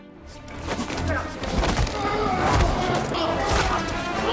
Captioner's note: actors grunting